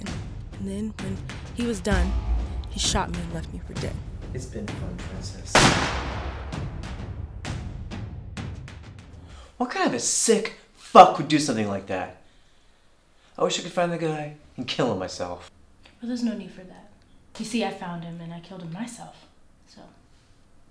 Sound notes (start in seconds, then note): 5.5 gunshot